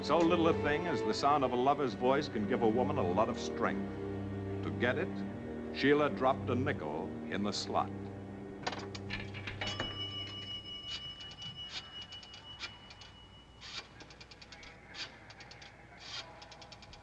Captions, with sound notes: So little a thing as the sound of a lover's voice can give a woman a lot of strength. To get it, Sheila dropped a nickel in the slot. (Phone dinging)